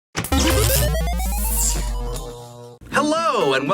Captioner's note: static electric buzzing